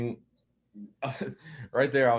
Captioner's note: chuckles